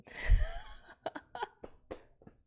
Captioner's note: laughs